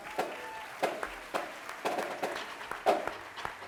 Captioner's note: applauding